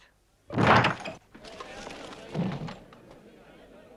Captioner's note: door bursts open